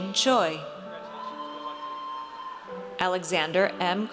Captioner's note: audience cheers